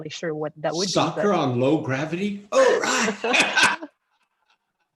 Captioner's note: laughs